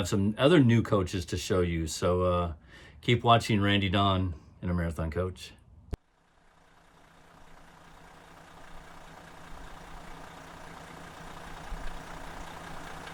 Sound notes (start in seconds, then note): 5.9 car engine